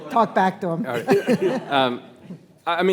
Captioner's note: attendees laughing